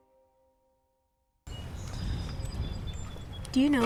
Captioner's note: birds chirping